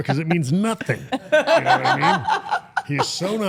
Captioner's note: interviewer laughing